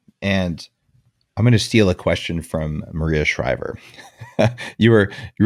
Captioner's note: laughs